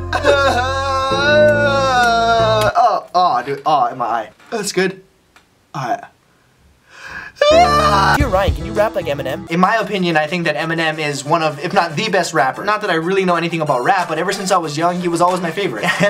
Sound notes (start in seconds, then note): 0.0 sobbing; 7.2 sobbing